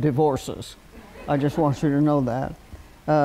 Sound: laughter

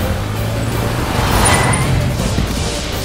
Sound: brakes

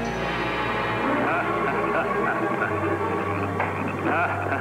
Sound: laughing

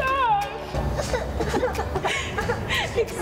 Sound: pretending to cry

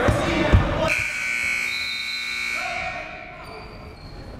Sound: timer buzzes

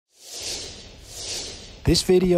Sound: air whooshing

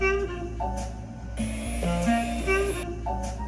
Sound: gentle jazz music; electric whirring; gentle jazz music

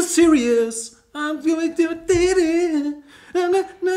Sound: hums

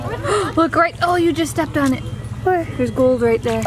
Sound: gasp

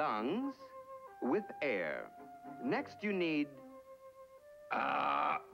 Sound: burps

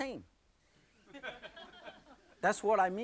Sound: audience laughing

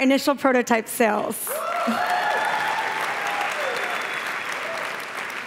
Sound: applause

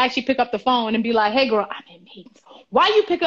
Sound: whispering

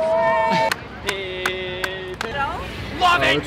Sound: audience cheering

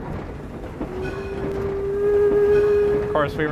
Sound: train whistle

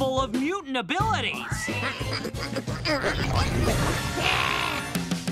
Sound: squealing, snorting

